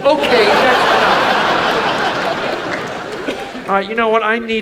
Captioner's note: audience laughs